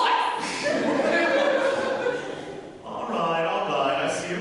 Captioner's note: audience laughter